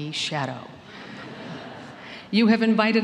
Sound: laughter

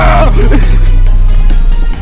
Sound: retarded giggle

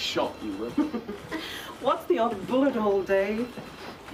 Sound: chuckles

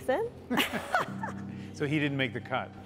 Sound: laughing

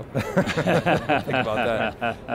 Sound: laughter

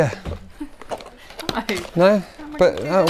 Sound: laughs

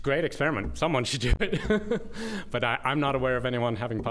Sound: laughter

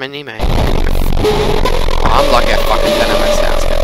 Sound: loud among us bass boosted sound effect

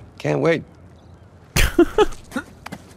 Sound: laughs

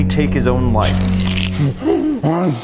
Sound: popcorn crunches

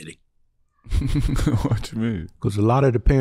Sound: chuckling

